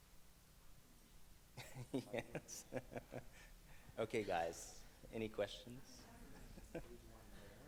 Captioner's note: laughs